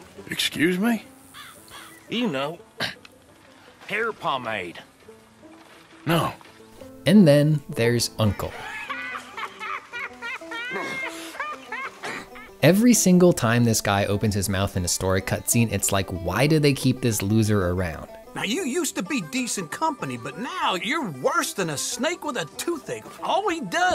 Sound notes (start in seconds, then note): 8.5 uncle cackling